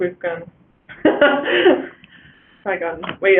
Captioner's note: laughs